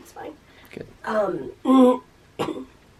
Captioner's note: clears throat